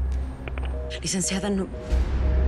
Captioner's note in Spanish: Tono del teléfono